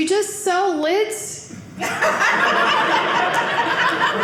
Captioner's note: audience laughing